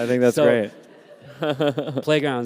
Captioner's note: laughter